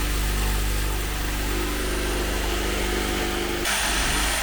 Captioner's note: machine drilling